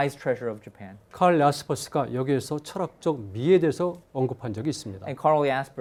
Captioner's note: speaking in Korean